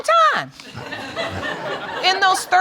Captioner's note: audience laughing